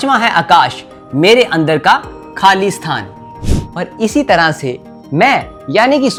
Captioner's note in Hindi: नाक से की जाने वाली आवाज़